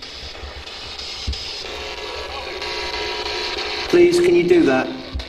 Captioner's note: static buzzing